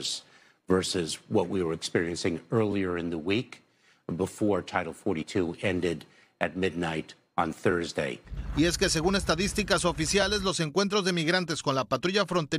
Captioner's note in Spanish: hablan en inglés